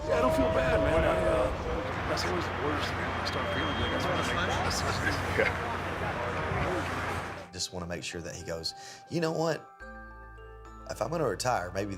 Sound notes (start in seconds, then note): 4.5 both laughing